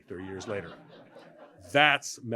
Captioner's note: laughter